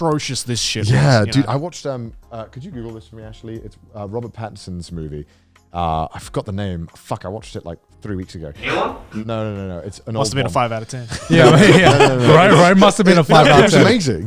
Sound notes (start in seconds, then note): 11.1 laughing